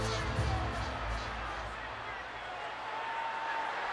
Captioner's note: crowd chattering